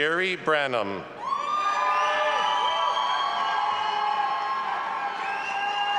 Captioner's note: audience applauding and cheering